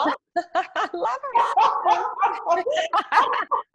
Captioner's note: both laughing